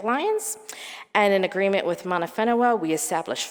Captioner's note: speaking in foreign language